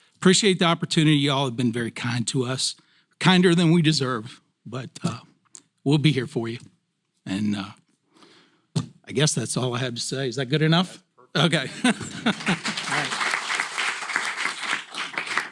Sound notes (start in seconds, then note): 11.5 laugh; 11.7 applause